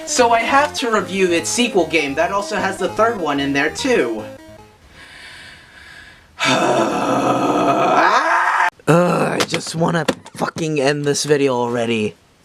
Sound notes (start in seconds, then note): 6.3 sighing turning into screaming; 10.0 groaning